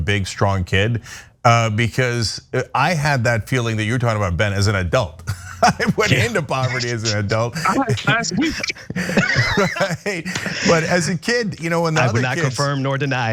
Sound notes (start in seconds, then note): 5.2 laugh